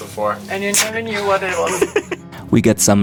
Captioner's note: giggles